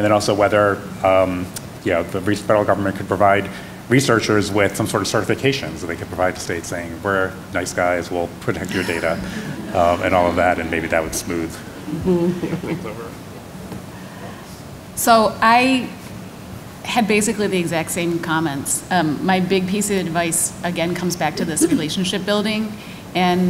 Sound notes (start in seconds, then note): 8.6 laughter